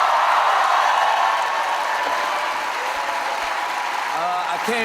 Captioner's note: cheers and applause; cheers and applause continue